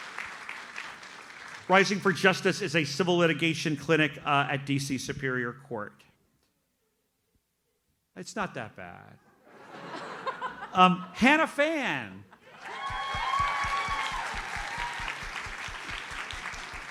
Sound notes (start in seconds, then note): 9.4 audience laughs; 12.4 audience cheers and applauds